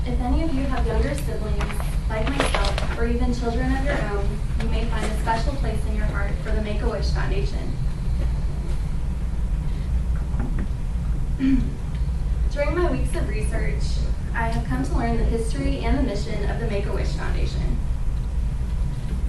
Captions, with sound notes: If any of you have younger siblings like myself or even children of your own, you may find a special place in your heart for the Make-A-Wish Foundation. [Clears throat.] During my weeks of research I have come to learn the history and the mission of the Make-A-Wish Foundation.